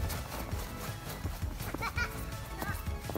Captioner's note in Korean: 웃음